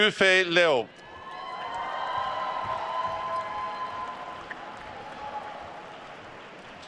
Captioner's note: attendees cheering and applauding